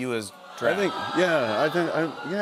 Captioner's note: audience "Awws"